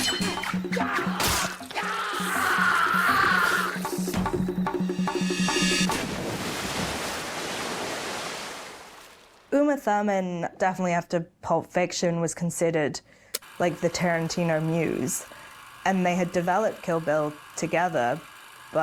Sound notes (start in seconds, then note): 1.5 Johnny Mo yells; 5.9 water splashes